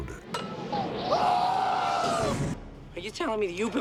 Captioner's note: screaming